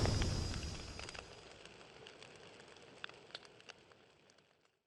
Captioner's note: fire crackles